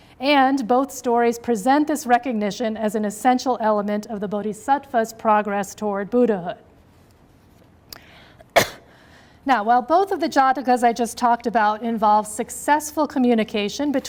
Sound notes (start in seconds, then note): 8.5 coughs